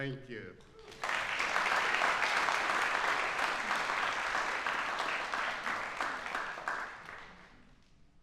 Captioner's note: applauses